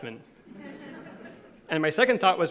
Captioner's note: laughing